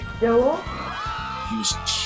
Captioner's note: screaming